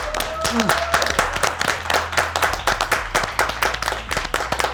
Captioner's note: clapping